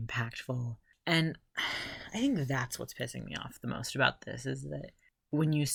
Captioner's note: sigh